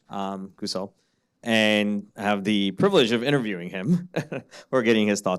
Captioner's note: laughing